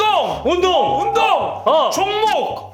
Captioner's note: shouting "exercise" for the fifth time